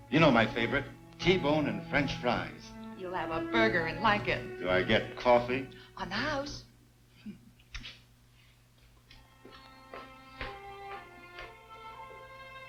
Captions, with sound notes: - You know my favorite T-bone and French fries. - You'll have a burger and like it. - Do I get coffee? - On the house. (mouth kissing) (footsteps thudding)